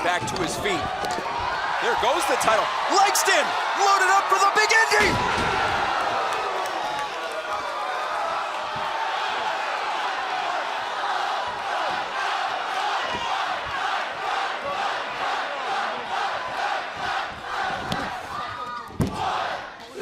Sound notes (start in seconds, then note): 5.4 crowd cheering